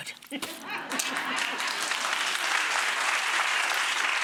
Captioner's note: applause